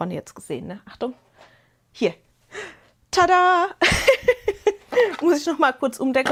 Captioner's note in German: Gelächter